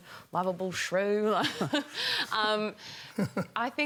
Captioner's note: laughs